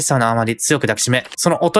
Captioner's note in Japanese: 紙の音